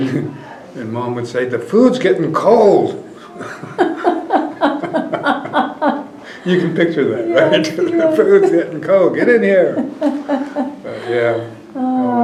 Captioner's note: laughter